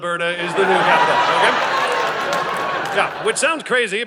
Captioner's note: audience laughing